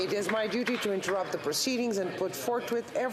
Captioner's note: some Applause